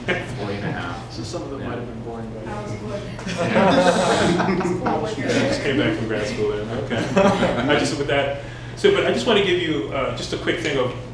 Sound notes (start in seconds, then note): 2.9 participants laughing